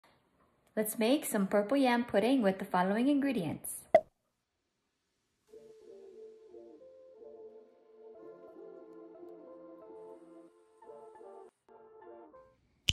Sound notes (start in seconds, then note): 3.7 cork bottle pop